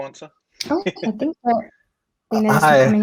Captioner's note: giggling